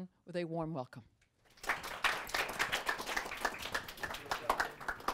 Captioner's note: applause